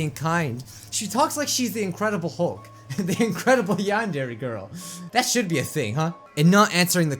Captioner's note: laughing